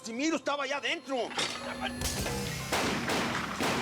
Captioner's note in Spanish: ruido al tirar cosas al piso